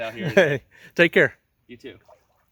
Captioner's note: chuckles